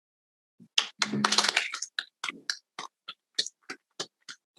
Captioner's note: all applauding